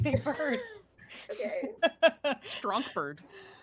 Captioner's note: laughing